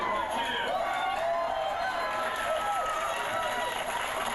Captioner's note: cheering; clapping